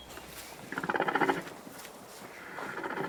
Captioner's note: snoring